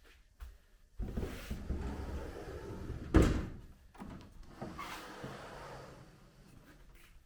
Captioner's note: paper sliding door